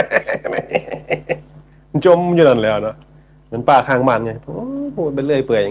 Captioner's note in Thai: เสียงหัวเราะ